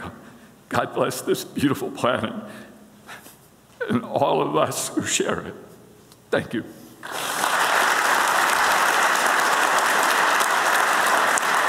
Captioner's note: applause